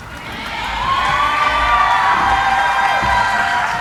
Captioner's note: cheering